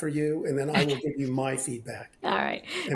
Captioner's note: laughs